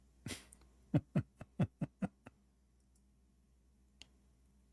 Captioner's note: Ketawa